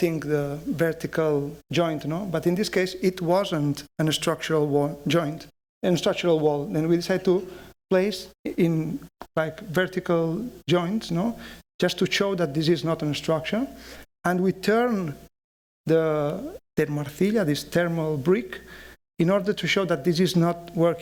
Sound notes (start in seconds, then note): 15.7 speaking spanish